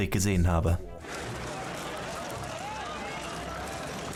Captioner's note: loud chatter